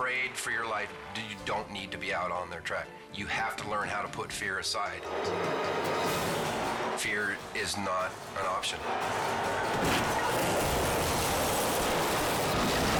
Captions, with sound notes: - If you're afraid for your life, you don't need to be out on that track. You have to learn how to put fear aside. Fear is not an option. (cars crashing)